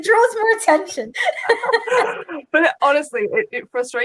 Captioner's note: laughing